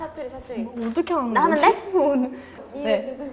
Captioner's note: dialect